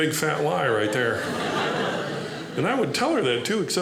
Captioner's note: audience laughing